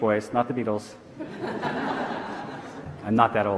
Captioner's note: audience laughing